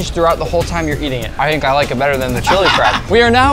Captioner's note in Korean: 웃음